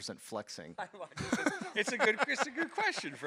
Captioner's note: both laughs